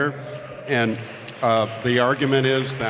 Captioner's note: applause